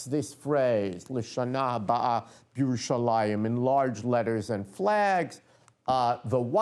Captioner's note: non-english speech